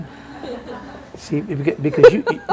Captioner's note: laughter